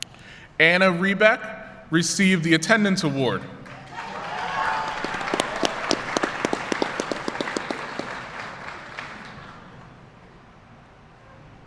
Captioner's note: applause